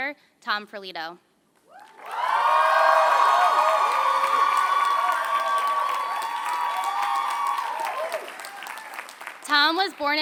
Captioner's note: applause